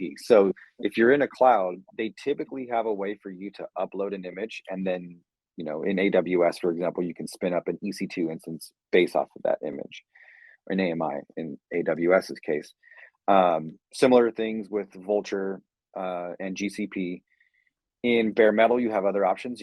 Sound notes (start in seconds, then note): none